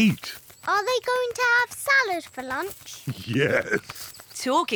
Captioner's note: laughs